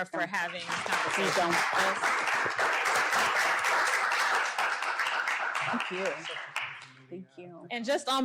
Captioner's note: applause